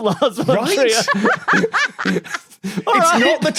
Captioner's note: guessers giggling